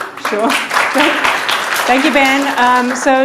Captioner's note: audience applauding